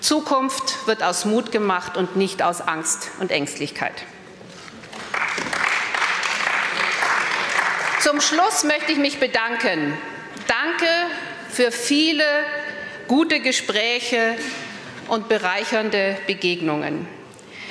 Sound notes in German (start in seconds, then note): 4.8 Applaus